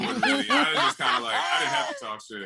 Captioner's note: laughter